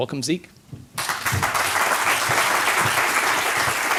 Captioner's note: applause